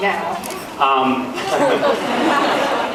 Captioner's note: laughs